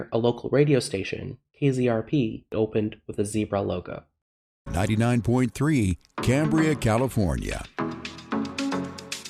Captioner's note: radio